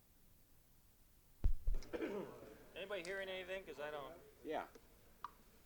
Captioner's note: Bradley coughs; no audio